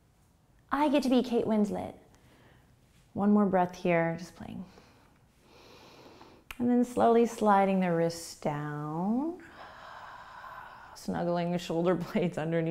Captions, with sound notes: I get to be Kate Winslet. One more breath here, just playing. (inhaling) And then slowly sliding the wrists down. (exhaling) Snuggling the shoulder blades underneath